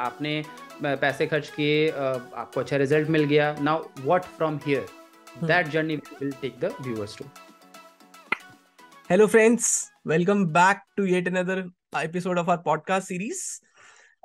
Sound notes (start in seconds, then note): 8.3 claps